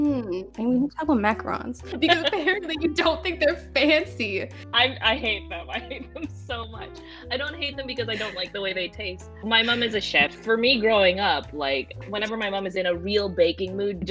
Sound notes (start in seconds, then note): 8.1 laughs